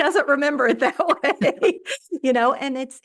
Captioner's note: laughs